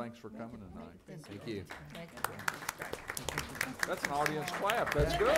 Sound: applauding

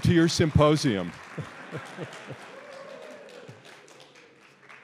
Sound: audience applauds

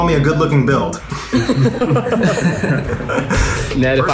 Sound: group laughing

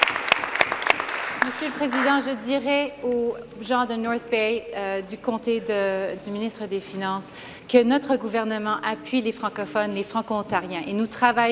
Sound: applause

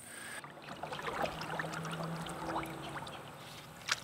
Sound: water lapping

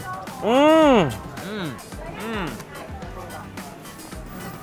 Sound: funky pop music; groans in delight

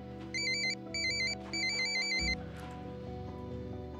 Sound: phone rings

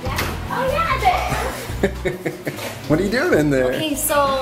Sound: laughs

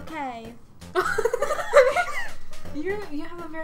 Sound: both laughing

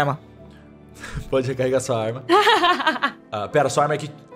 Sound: laughter

